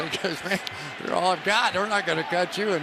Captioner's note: laughs